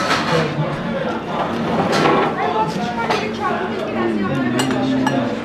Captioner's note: dishes clattering